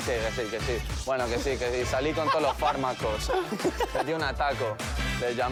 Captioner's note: laughs